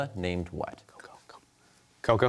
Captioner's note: whispers